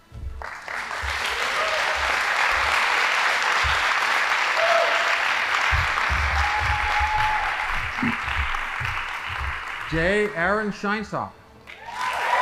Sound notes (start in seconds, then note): 0.7 audience applauding; 11.7 audience applauding